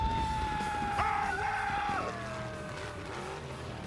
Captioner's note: screaming